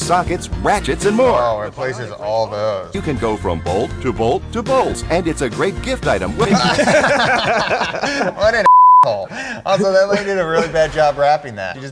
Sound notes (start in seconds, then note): 6.2 laughing